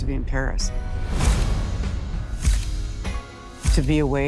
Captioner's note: camera shutters clicking